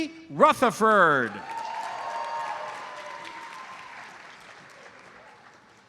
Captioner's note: audience cheers and applauds